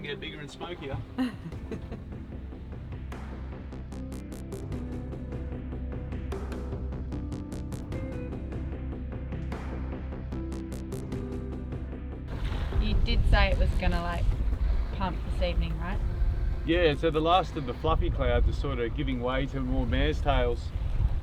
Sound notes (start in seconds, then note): 2.0 laughing